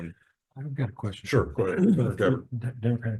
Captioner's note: gallery member coughs